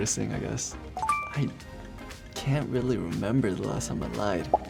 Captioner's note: beep